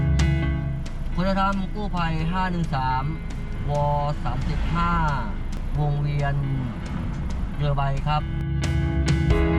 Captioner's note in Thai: เสียงเรียกวิทยุ